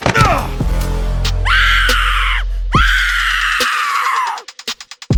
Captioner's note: William falls with a thud; William groans; Bird Woman shrieks